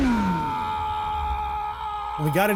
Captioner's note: motorcycle revving; screams